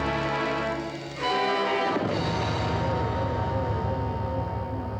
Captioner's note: none